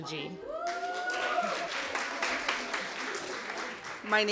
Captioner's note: applause